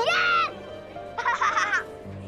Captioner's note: laughing